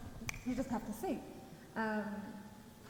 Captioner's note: snapping fingers